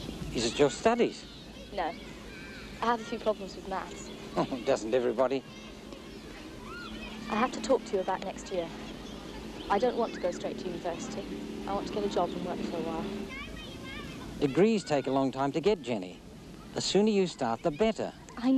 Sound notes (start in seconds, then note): 4.2 chuckles